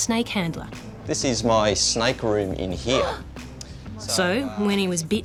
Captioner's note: gasps